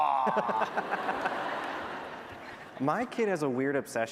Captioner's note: laughter